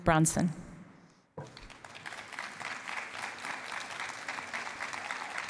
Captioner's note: applause